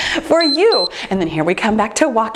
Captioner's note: timer beeps